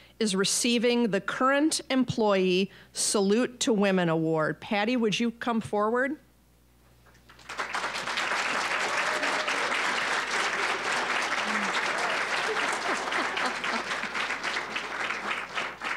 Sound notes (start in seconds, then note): 7.2 applause; 13.1 laughing